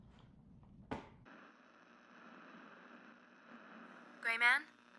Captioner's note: radio buzzing